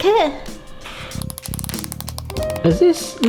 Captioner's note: spoon tapping shell at high speed